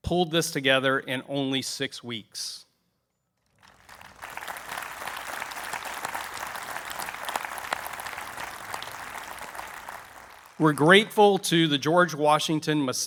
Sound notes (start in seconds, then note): 3.5 applause